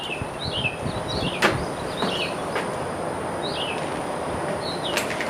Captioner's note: birds twittering